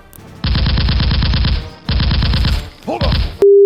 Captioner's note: gunfire rattling